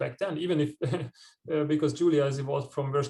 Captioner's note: chuckles